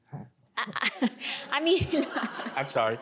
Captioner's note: Lina laughing noncommittally